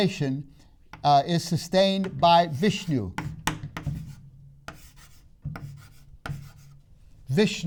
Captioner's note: marker writing on board